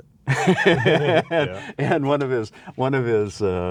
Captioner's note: laughs